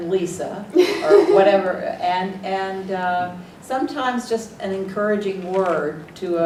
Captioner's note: laugh